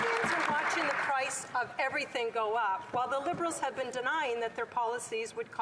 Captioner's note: cheering and Applause